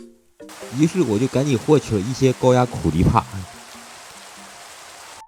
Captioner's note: lightning